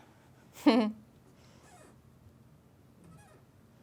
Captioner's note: laughing